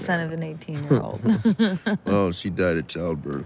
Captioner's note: laughing